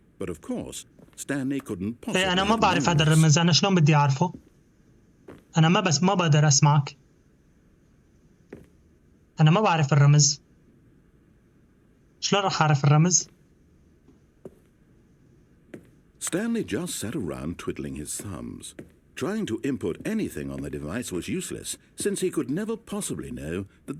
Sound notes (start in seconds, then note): 3.3 footsteps